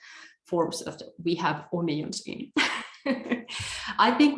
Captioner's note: laughs